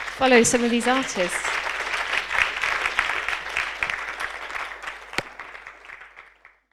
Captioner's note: audience applause